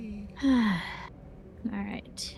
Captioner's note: sigh